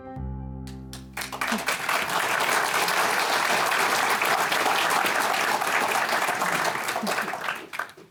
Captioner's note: applause